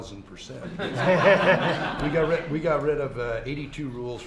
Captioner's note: laughter